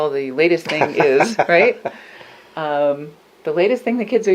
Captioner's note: laughs